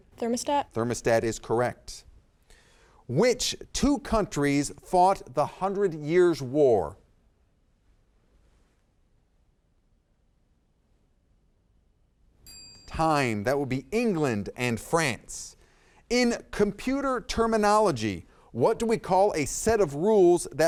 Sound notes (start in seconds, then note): 12.4 timer dings